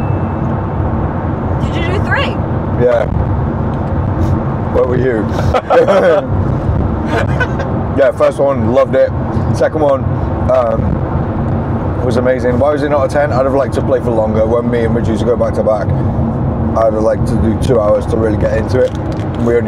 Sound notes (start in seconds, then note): 7.1 laughs